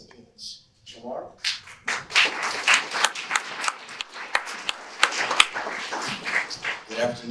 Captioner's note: audience applause